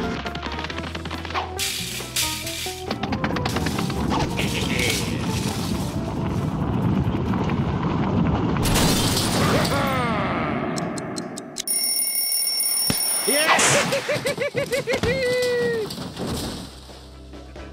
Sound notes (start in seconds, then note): 4.1 laughs; 11.6 bell rings; 13.3 laughs